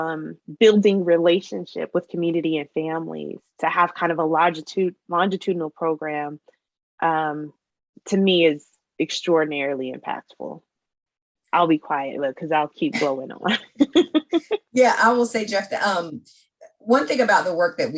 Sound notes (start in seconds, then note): 13.9 laughs